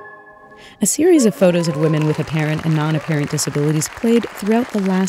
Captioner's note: music ends with a flourish; applause, cheers